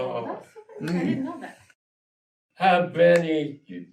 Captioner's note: group mumble of interest